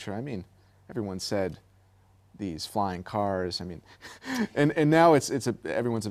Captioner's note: laughter